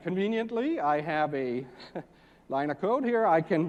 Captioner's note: laugh